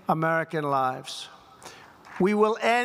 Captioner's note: applause